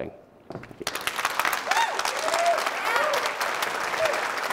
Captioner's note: applause